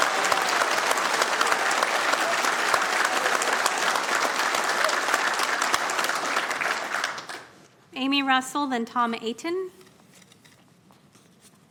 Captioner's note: cheering